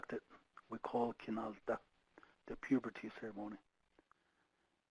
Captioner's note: speaking foreign language